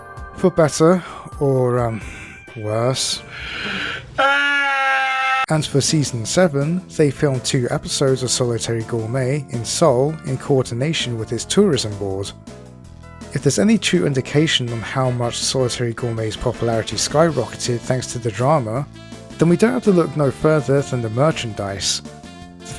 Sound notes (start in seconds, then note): 4.2 howl